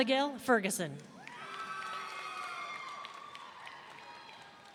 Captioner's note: audience cheering